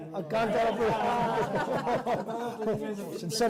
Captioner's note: laughter